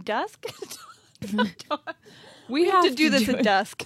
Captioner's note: laughs